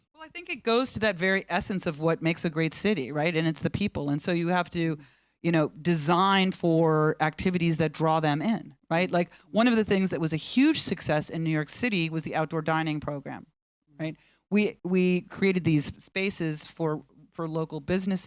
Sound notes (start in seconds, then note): none